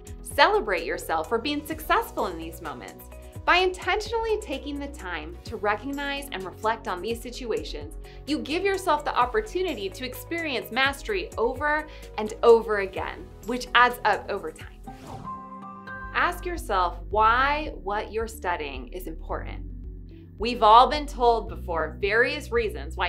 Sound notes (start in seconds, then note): 14.8 air whooshing; 15.1 upbeat music continues